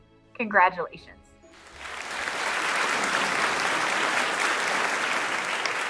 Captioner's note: audience clapping